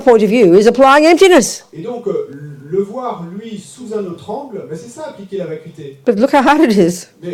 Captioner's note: French